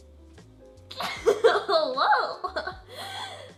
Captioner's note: laughs